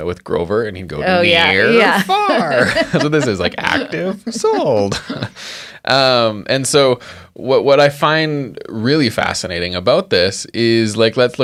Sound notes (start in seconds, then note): 1.6 laughs